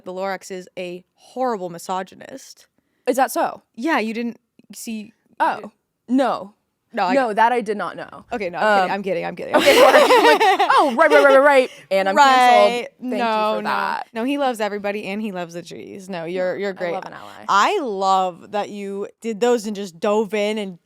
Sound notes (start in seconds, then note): 9.5 both laughing